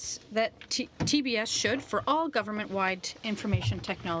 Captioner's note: speaking French